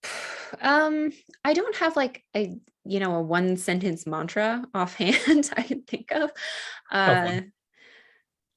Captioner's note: chuckles